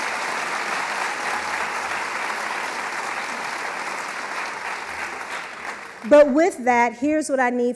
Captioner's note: applause